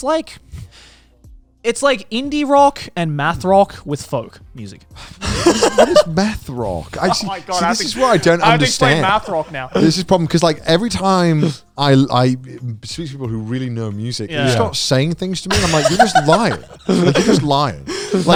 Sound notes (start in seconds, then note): 5.1 laughing